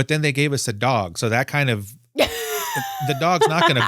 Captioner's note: laughs